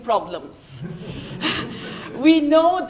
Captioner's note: laughter